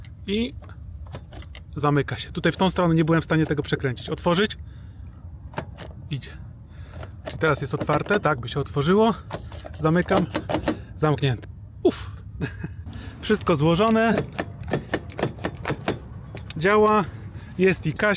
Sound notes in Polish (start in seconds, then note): 12.3 śmiech